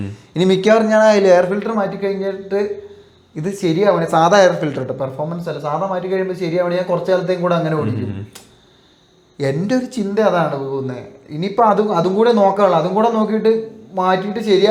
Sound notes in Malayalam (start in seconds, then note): 7.8 തൊണ്ട ശരിയാക്കുന്നു